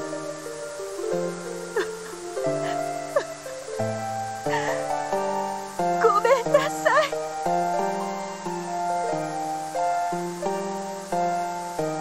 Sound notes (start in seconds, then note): 1.6 sob